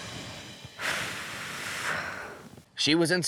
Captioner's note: exhales